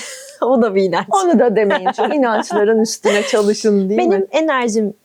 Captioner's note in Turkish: kahkaha